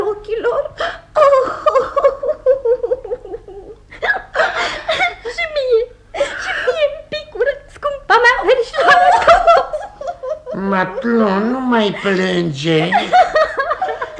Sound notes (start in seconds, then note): 1.0 the girl cries